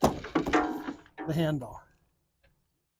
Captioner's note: metal clanking